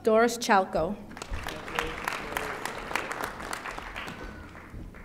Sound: audience applauding

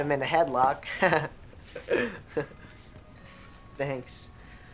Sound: Griffin giggles

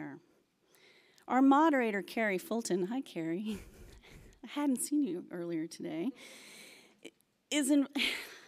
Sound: laughs

